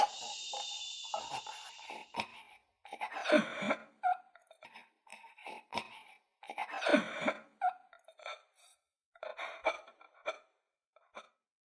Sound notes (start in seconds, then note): 2.6 Joe’s last breaths